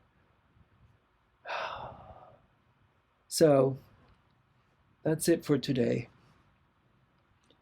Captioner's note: sigh